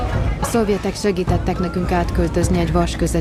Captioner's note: woman, in Hungarian